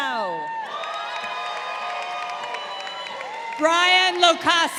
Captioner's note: crowd cheering